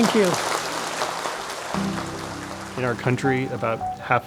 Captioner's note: applause